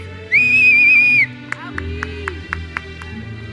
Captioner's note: audience member whistles and claps